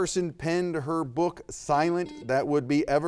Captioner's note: beep